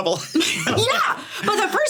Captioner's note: laughing